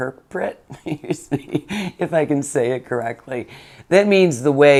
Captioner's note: giggles